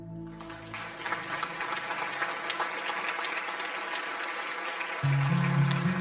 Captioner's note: audience applause